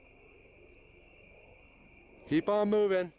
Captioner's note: helicopter sound